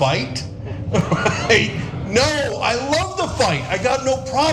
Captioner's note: laugh